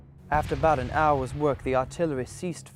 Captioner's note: voiceover